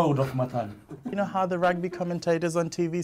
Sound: both chuckles

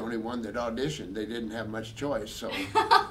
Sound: laughing

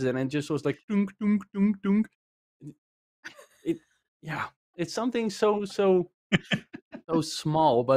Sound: mimicking metallic clanging

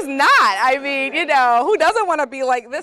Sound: laugh

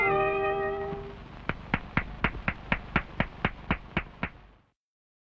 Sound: clapping

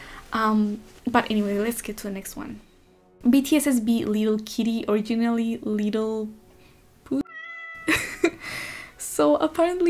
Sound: meow; laughs

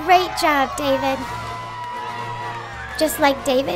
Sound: Israelites cheering

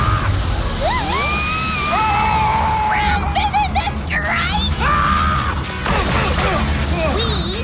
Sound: screaming

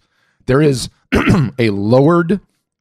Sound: clears throat

